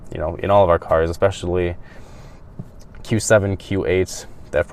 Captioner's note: none